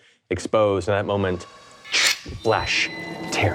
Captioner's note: imitates carrot ripping